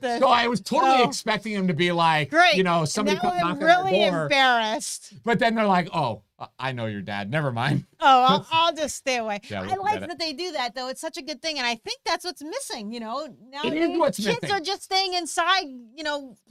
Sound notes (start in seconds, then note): 7.6 both chuckling